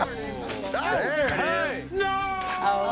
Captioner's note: all chattering